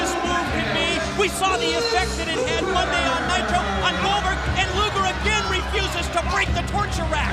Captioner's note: bell ringing